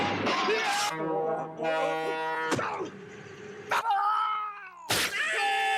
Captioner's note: yelling